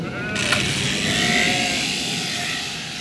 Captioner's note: loud machine whirring, bleating